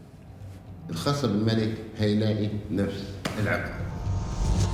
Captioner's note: in Arabic